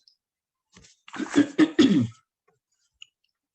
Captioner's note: clears throat